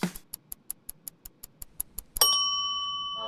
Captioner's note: ticking timer; bell dings